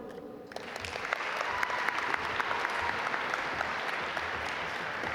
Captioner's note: audience applaud